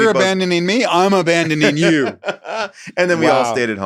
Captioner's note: laughs